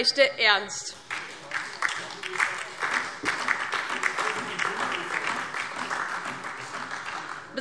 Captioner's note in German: Beifall DIE LINKE und vereinzelt SPD